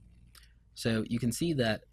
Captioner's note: clicking